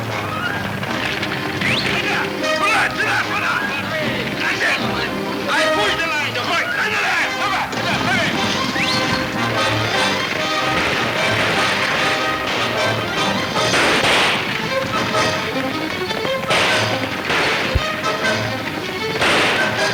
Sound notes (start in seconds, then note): 9.7 guns firing; 12.7 exciting orchestra music